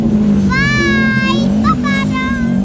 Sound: baby shouts

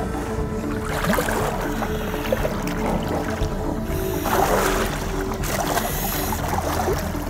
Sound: tense music; water splooshing

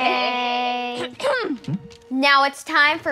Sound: Moana clears her throat

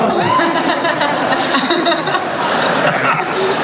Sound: laughter

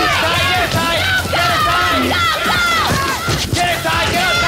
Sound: on-lookers yelling

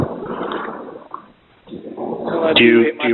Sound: water splashing

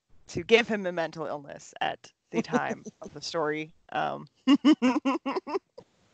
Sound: laughter

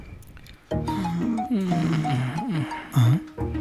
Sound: both groaning

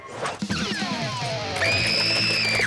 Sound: phone screaming

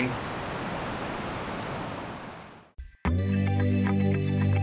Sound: waves crashing; mystical electronic music plays

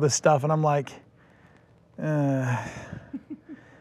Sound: sighs

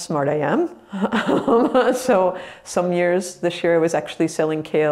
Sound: laughs

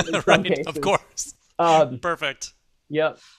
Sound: laughs

